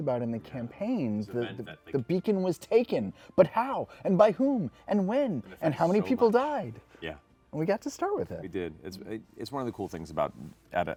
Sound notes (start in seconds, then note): none